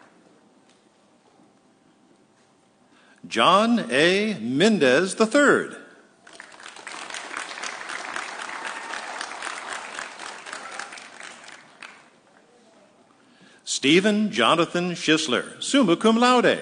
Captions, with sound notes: John A. Mendez III. (audience cheering) Stephen Jonathon Shisler, summa cum laude.